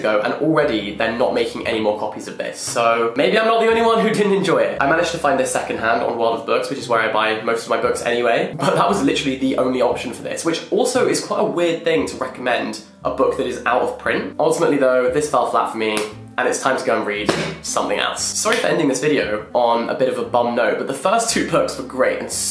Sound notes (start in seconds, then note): 17.2 book banging; 17.3 book slapping